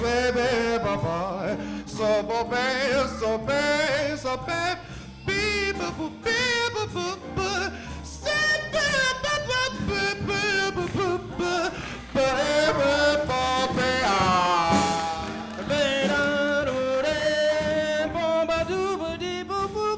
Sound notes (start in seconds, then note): 14.3 applause; 16.1 scat singing